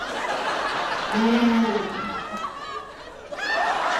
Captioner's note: laughter; animal grunts; laughter